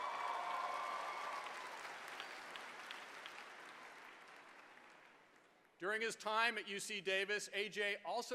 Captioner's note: applause